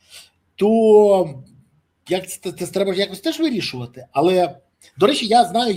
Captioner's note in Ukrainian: сопіння